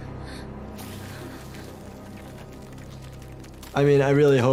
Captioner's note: ash fluttering